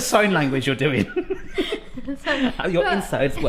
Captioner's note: laughs